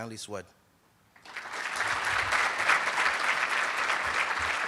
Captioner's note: applauding